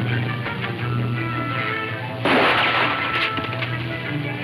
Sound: guns firing

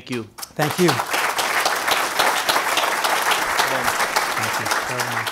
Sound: applause

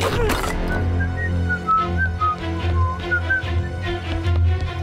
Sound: whistling

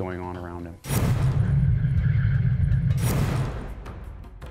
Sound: foreboding sound

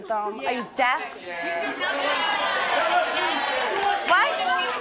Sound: audience shouting

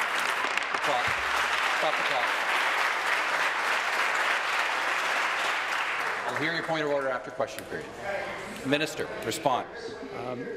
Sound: applause

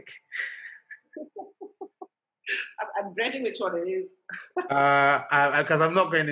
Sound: laughter

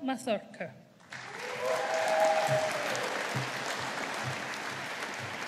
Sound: audience applauding

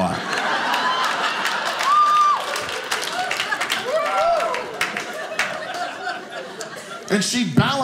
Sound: audience laughing

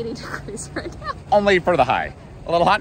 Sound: laughs

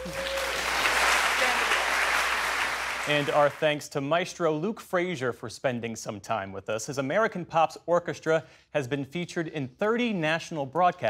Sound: applause

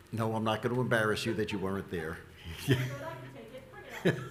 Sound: laughs

